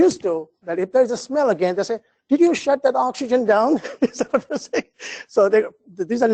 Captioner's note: laugh